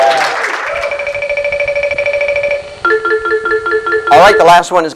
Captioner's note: SFX: Computer tabulating